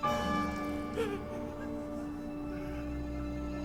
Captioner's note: cackling